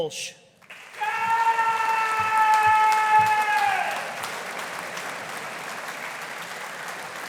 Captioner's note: audience applauding; audience cheering